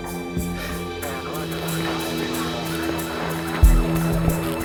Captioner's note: radio chattering